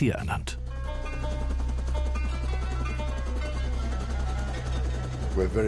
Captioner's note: helicopter blades whirling